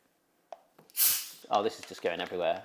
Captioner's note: bottle hisses